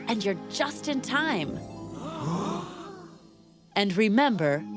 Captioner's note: gasps